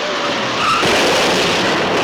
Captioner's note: crashing; booming